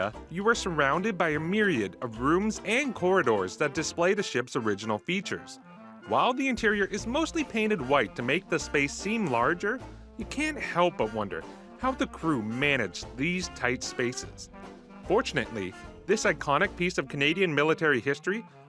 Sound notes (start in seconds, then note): none